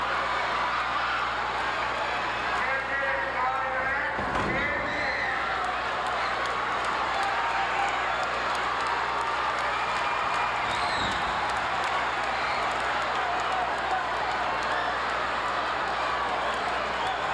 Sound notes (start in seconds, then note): 2.0 announcer chanting; 2.0 audience cheering; 11.1 audience applauding